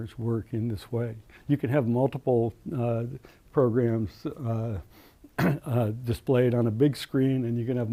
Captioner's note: cough